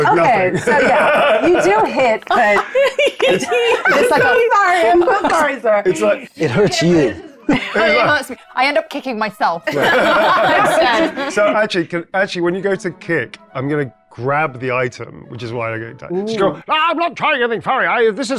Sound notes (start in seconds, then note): 3.6 laughs; 9.6 everyone laughs